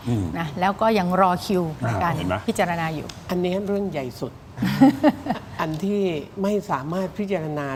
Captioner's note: laughter